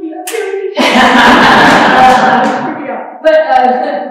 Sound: crowd laughs

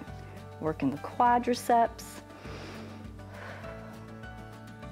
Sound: inhales and exhales

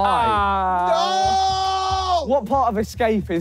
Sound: JJ shouting

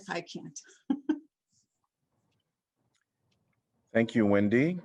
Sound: laughter

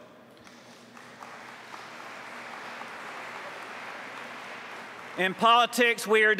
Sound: applause

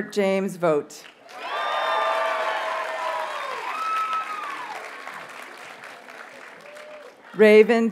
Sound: audience cheers and applauds

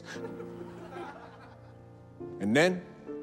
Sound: students laughing

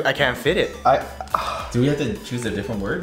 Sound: exhale

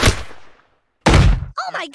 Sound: gunshot

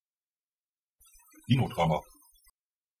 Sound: fast Pronunciation

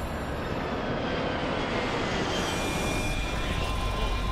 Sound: plane whooshing

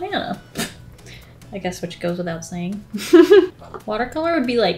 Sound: laughs

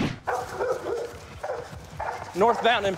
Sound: dog barking

